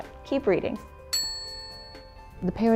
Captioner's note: bell ding